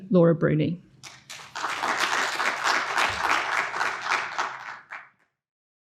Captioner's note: audience applauding